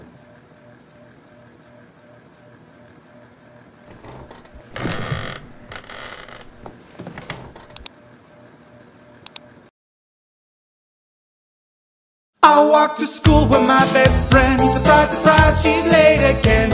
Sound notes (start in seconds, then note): 9.2 click